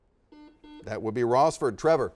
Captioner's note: series of beeps